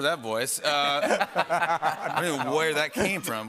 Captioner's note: laughter